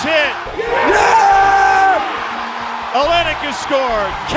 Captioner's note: cheering